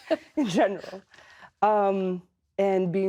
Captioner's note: laughter